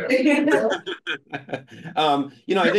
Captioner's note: group laughing